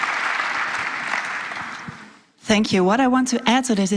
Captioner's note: applause